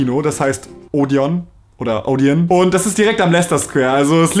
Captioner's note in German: spricht es englisch aus